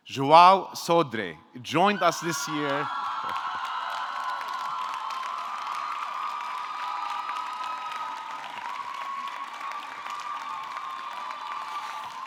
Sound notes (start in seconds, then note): 4.1 audience cheering; 4.1 audience clapping